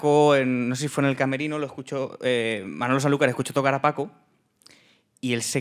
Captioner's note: speaking in Spanish